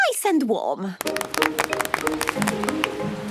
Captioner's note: applause